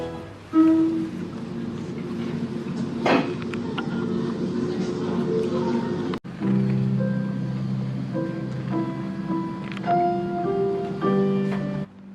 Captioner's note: movie playing